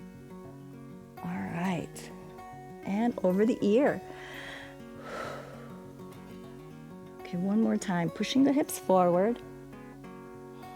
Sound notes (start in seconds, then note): 4.1 inhales and exhales